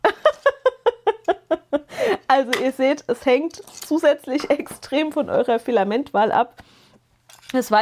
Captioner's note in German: gelächter